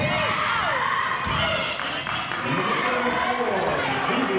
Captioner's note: yelling